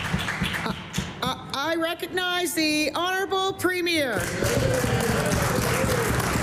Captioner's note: applause